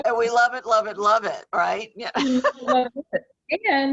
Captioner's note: laughs